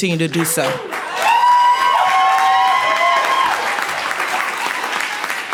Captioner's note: cheering and clapping